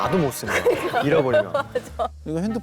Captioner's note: laughing